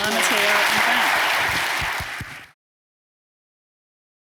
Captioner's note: applause